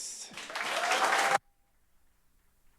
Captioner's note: applause